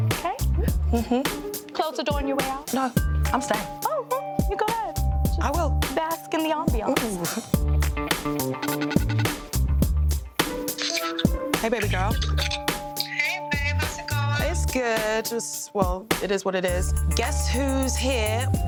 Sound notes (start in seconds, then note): 0.9 chuckles; 8.7 FaceTime ringing